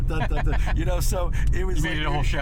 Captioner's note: laughs